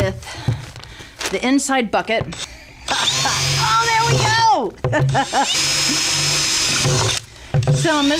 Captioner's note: sound of drilling holes in bucket